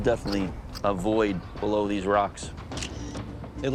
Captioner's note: camera shutter clicks